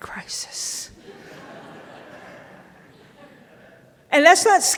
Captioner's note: audience laughing